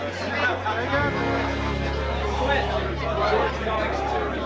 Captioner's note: crowd chatters